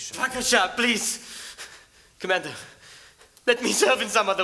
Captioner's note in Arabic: بالعبري